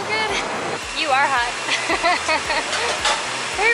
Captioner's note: laughter